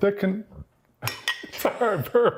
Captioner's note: burping